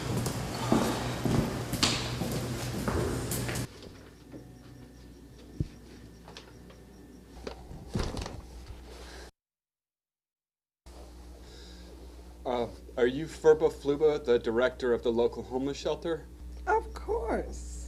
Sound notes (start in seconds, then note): 0.0 cleaning sounds; 0.5 slience